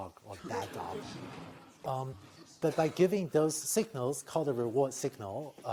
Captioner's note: laughter